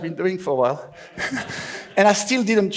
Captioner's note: laughs